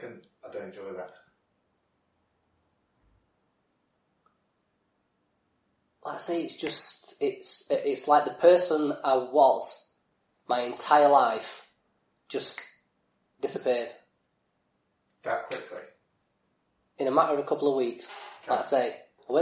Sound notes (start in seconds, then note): 12.0 clicks fingers